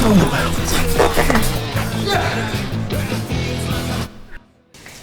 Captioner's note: man grunts